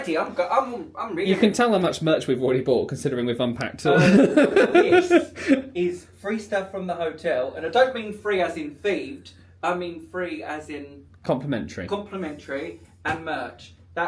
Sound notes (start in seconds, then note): 3.9 laughing